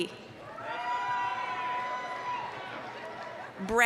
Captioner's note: applause, cheering